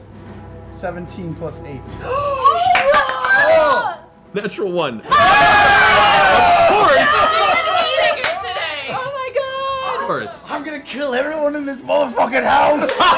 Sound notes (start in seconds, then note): 6.3 laughs; 8.8 cheering